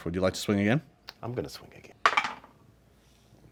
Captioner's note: dice roll